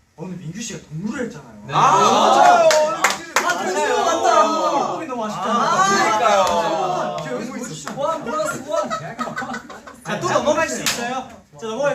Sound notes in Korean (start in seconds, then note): 8.2 어디선가 들려오는 웃음소리